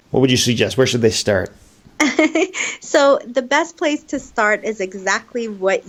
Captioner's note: laughing